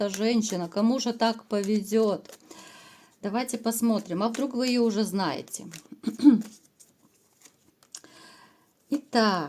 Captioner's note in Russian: откашливается